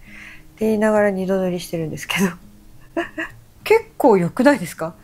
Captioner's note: laughs